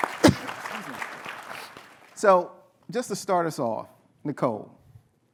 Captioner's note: applause